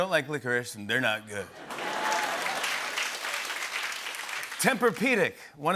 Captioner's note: laughter and applause